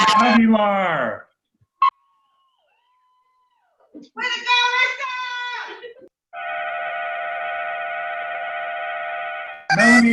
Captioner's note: cheering